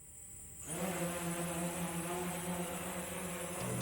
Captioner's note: drone flying